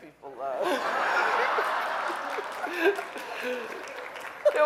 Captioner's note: audience laughing